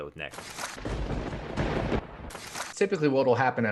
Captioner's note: thunder rumbling